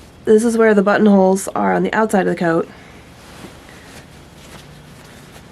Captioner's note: none